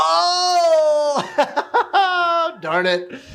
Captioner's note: laughs